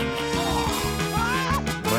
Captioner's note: groans; exclaims